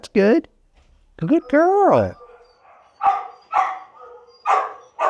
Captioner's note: dog barks